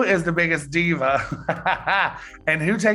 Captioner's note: Eureka laughs